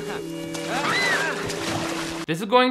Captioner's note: water splashing; Jessica screaming